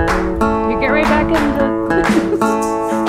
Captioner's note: laughing